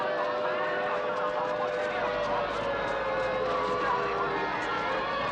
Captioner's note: siren Wailing